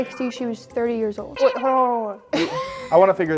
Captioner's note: laughing